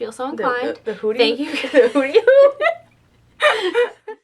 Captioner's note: laughter